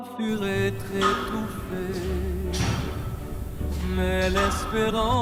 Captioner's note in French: chant